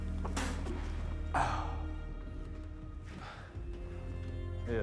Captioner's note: Igor spitting